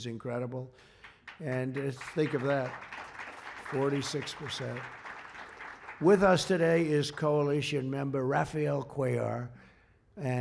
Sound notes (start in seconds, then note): 0.8 applause